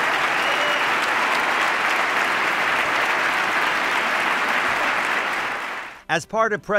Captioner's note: applause